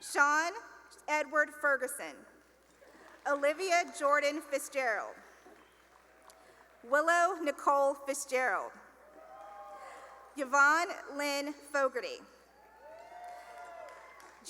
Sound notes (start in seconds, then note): 2.6 applause; 5.2 applause; 9.0 cheering; 12.5 cheering and applause